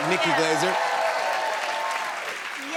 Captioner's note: cheers and applause